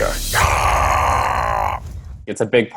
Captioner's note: yells